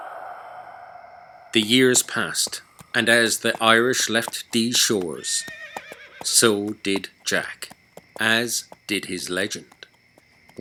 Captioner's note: banshee Wails and Strange Dark Whispers and Groans; horse Hooves and Nays